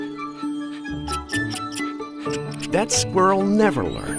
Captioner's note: squirrel chirping